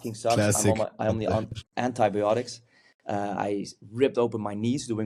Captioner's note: chuckles